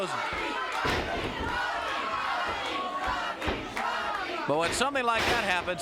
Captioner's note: crowd chants "Rocky"